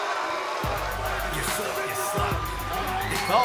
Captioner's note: cheers & boos